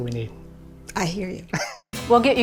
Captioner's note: laughing